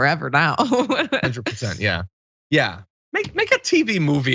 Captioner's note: laugh